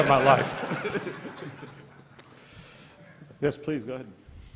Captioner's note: laughter